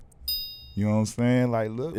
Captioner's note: ding